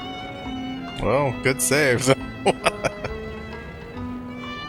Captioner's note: laughing